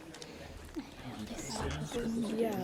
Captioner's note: students whisper